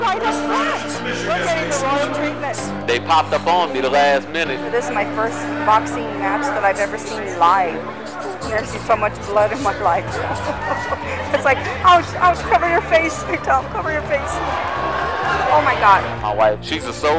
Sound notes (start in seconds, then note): 9.3 chuckles; 14.1 fans cheering